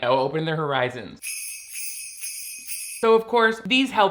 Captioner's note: bells jingle